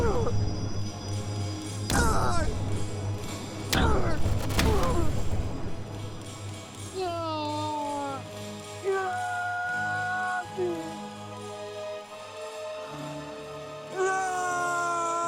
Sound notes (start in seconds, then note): 0.1 groaning; 3.0 dramatic music; 7.3 anguished shouting; 12.0 dramatic music